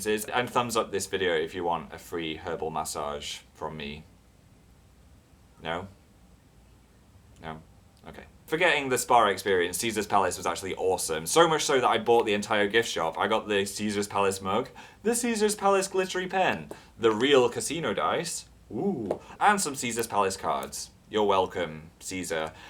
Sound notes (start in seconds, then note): 18.7 oooh